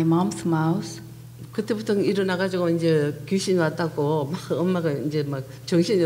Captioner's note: speaking foreign language